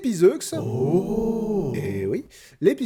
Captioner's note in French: Exclamations ébahies